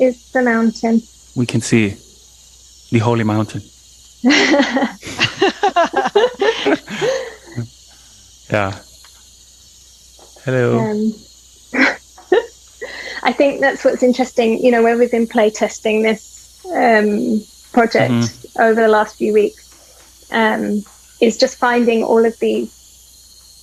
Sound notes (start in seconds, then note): 4.2 all laughing; 10.0 laughing